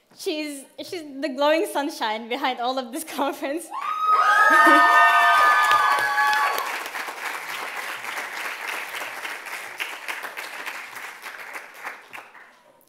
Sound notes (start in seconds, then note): 3.7 loud cheers and applause